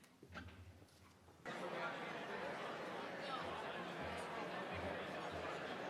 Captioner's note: crowd speaking quietly